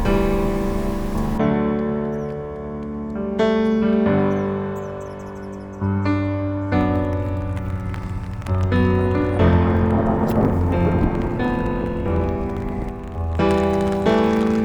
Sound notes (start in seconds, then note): 8.5 thunder rolling